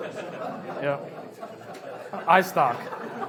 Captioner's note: laughs